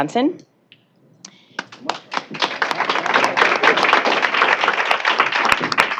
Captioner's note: applause